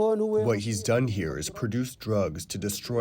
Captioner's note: through translator